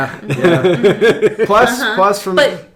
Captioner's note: laughing